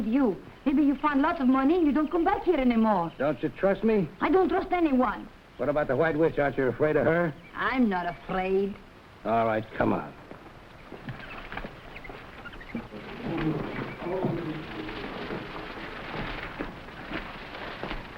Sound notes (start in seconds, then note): 10.6 jungle animals chattering; 10.9 plants rustling